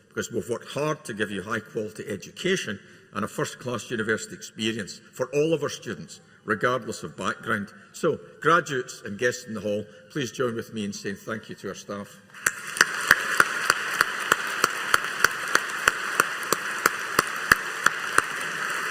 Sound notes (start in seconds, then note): 12.4 audience applauding